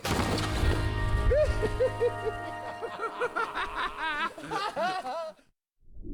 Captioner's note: giggling